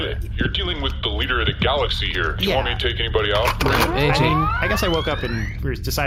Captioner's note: charges blaster